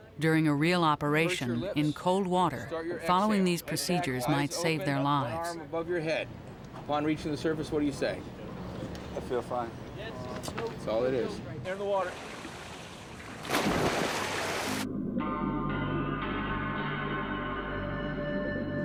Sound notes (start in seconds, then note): 13.4 water splashes; 14.8 tense music